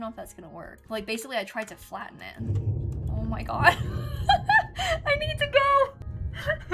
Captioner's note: thunder